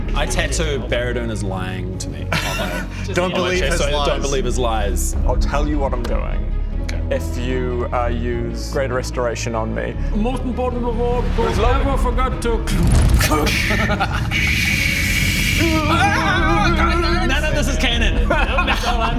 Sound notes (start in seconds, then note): 14.4 ksssssscscscssscccsccscschhhhh